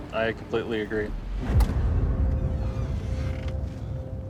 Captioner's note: doors creaking